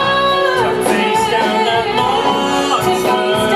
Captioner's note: echoes